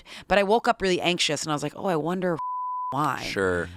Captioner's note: beep